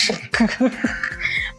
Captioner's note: laughter